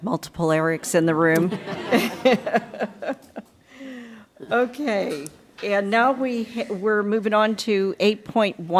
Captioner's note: laughter